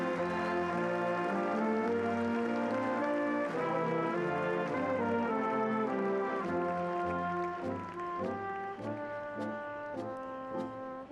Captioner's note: applause